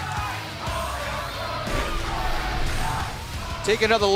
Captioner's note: fans chanting